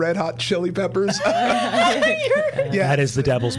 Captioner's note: all still laughing